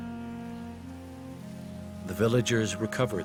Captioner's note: voiceover